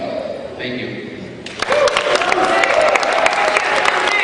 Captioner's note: cheering